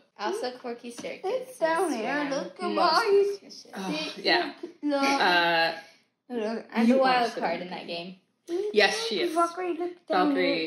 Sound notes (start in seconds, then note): 3.7 sighs